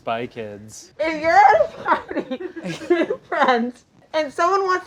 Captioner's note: laughs